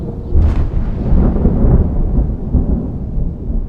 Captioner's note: rolling thunder